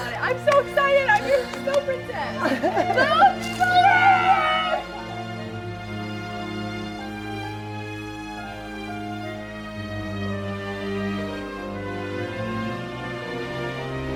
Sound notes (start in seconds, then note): 2.8 girls cheer; 2.8 tranquil orchestral music